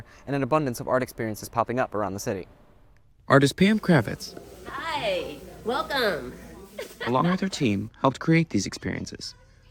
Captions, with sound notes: and an abundance of art experiences popping up around the city. Artist Pam Kravetz, Hi, welcome. [ laughing ] along with her team, helped create these experiences.